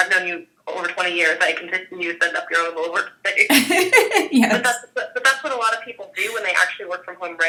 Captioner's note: laughing